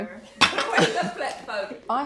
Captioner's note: chuckles